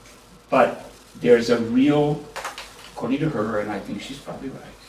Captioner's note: japanese